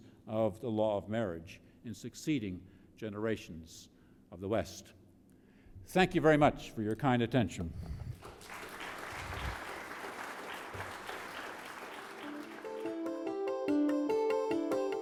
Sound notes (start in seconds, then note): 8.1 audience applauding; 11.8 upbeat music